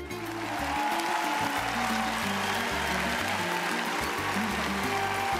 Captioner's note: cheering